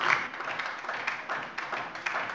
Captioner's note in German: Beifall DIE LINKE